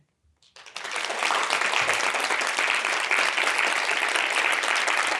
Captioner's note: audience applauding